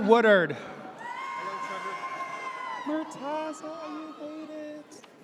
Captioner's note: audience cheers